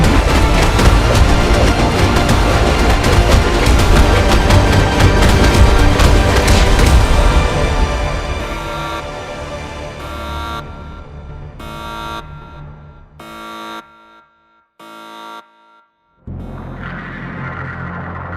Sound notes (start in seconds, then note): 0.3 dramatic upbeat music; 8.5 alarm sounds